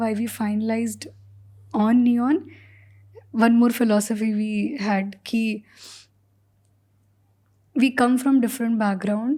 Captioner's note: speaks in Hindi